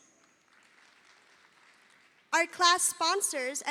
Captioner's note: audience applauding